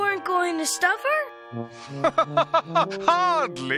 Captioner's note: laughs